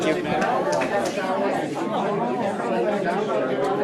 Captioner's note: chatter